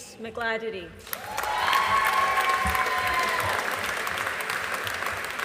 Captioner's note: audience applauding